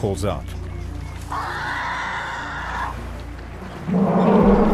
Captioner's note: calf trumpets